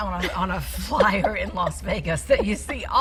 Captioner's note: laughing